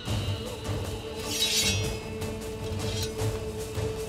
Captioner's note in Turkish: Kılıç çekme sesleri